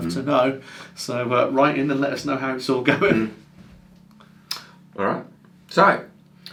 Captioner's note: chuckles